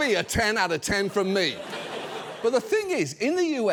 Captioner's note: audience laughs